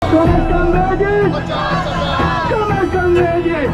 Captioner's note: protestors chanting